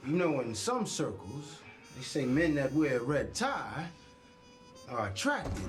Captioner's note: none